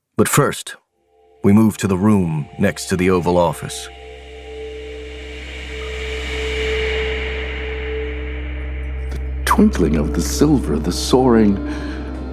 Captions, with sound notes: But first, we move to the room next to the Oval Office. (static whoosh) The twinkling of the silver, the soaring…